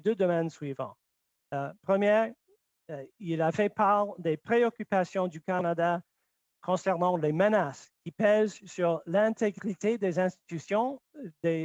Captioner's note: speaking French